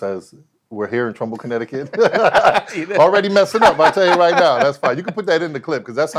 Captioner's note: laughs